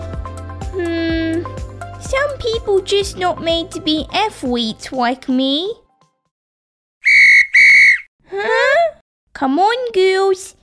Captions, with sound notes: Hmmm... Some people just not made to be athletes like me... (Whistle) Huh?! Come on girls!